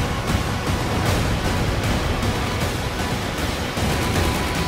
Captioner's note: gunfire